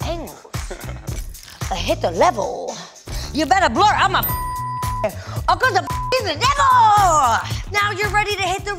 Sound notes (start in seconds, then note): 4.2 beeps